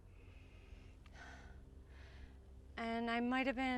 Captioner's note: Julie breaths hard